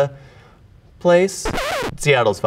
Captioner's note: record scratching